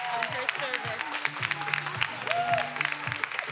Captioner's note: everyone applauding; upbeat music